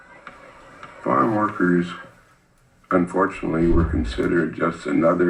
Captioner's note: audio from video being watched